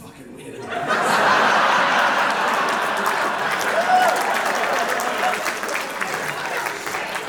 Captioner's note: big audience laugh